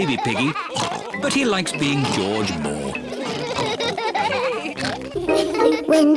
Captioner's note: all laugh